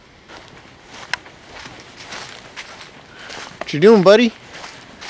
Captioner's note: leaves crunching